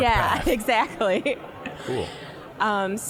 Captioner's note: dramatically; laughing